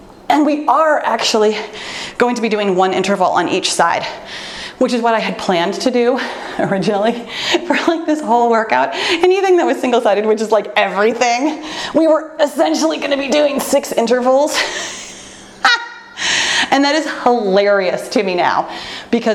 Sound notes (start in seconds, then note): 14.6 laughs